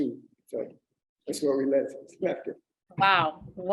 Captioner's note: laughs